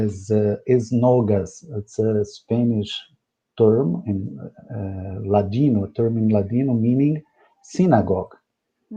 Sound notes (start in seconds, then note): 4.8 speaking in Spanish